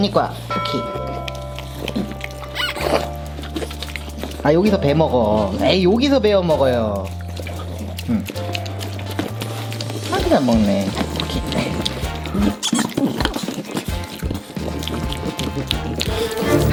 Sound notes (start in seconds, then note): 9.0 chews; 13.9 bites